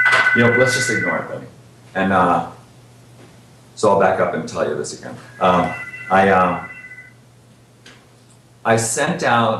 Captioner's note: phone ringing